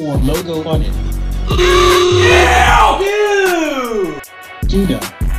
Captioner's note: ah sfx; Rich screams